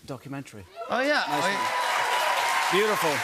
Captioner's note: cheers and applause